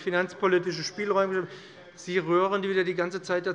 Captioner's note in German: Zurufe von der SPD und der LINKEN